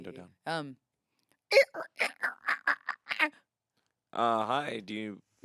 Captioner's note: imitates creaking